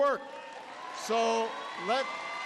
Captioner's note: applause